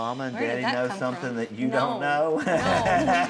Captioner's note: chuckles